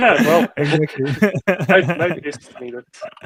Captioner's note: laughing